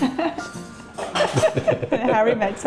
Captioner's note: laughing